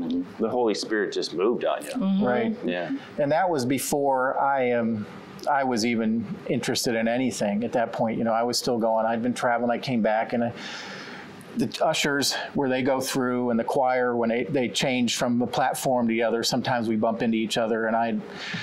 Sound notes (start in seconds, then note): none